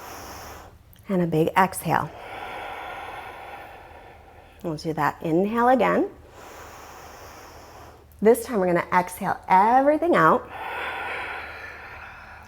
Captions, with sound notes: (deep breathing sounds) Exhale Samastitihi. And add on to our flow, reach up inhale, (deep breathing sounds) and hinge from your hip creases fold exhale.